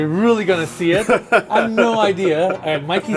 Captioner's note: laughs